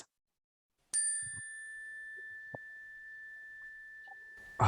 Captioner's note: bell ringing